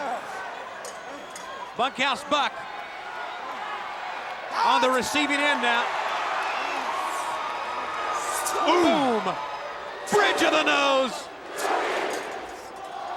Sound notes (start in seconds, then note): 3.4 applause